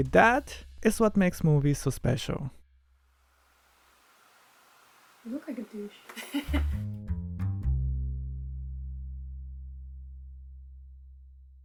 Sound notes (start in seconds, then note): 5.8 laughs